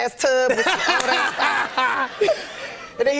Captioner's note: laughter